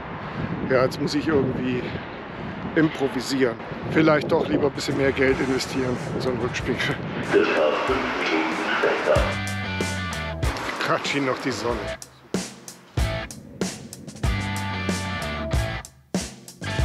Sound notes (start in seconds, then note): 10.5 in the background it is raining again